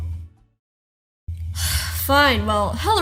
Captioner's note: sigh